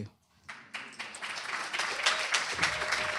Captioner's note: applause, cheering